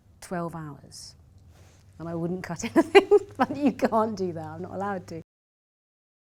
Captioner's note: laughs